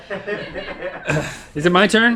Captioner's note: crew laughs